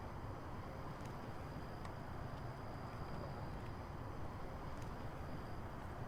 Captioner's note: insects continue chirping